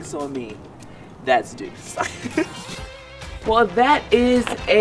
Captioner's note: chuckles